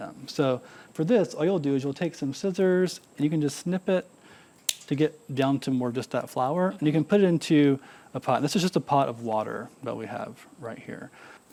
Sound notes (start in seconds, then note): 4.6 scissors snipping